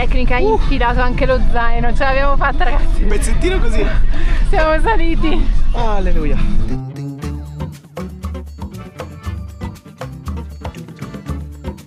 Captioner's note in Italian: risate